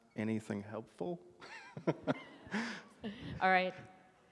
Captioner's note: laughs